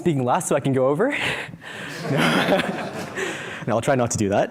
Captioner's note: laughter